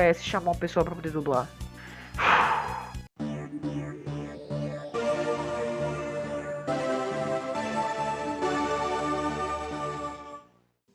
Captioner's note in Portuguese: Suspiro